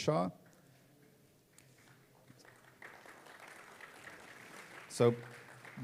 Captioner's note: applause